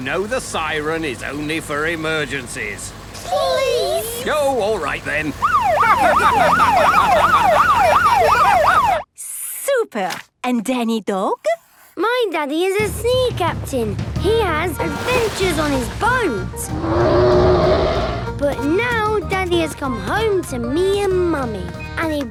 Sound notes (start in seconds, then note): 5.4 siren wailing; 7.5 laughing; 16.7 loud roar